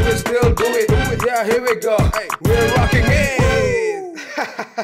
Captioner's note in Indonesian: woo